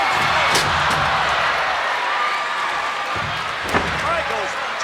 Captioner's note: crowd exclaiming; Razor Ramon thuds